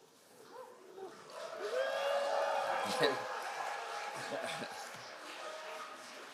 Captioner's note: crowd cheering and applauding